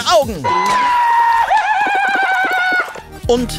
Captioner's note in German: hoher Schrei